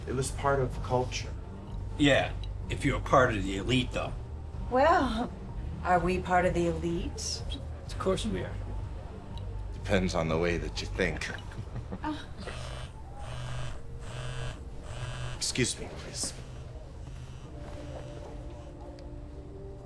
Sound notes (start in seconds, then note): 11.5 laughs; 12.4 phone buzzes